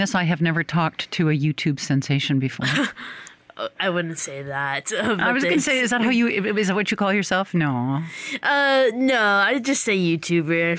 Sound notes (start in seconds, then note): 2.6 chuckles